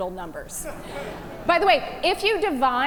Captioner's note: audience chuckle